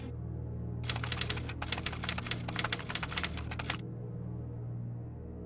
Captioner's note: typewriter clicking